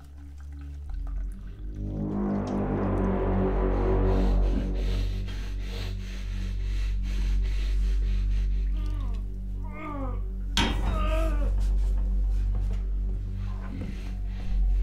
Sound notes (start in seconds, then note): 0.2 ominous Music; 8.7 Ryan grunting